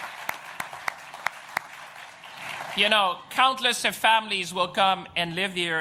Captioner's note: applause